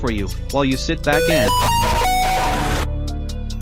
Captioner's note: bass_boosted_android_notification.mp3